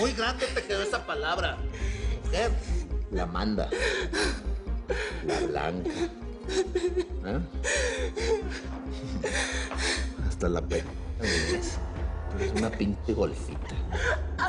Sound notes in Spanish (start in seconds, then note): 4.6 Sollozos; 7.6 Sollozos